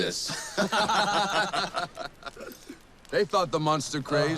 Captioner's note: all laughing